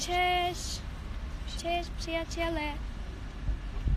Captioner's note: in Polish; in Polish